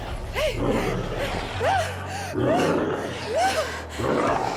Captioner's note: gasping; snarling